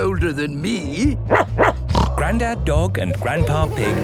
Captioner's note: barking, snorting